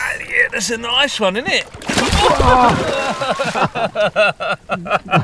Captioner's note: laughing